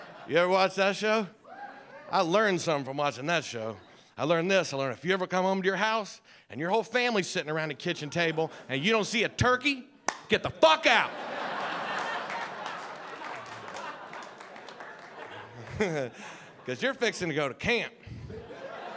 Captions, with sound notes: You ever watch that show? I learned something from watching that show. I learned this, I learned if you ever come home to your house and your whole family's sitting around the kitchen table and you don't see a turkey (clapping) get the fuck out! (audience laughing) Cause you're fixing to go to camp.